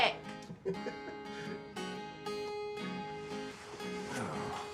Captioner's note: Abe chuckles